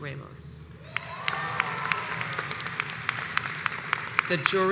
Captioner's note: audience applauds